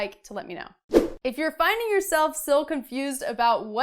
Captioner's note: air whooshing